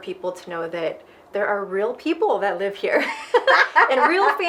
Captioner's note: both laughing